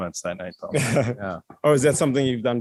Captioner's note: laughter